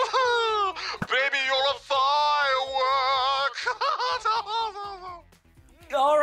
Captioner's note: laughs